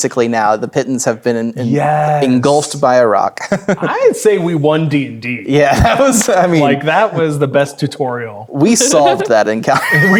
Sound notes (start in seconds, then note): 2.7 laughs; 5.7 chuckling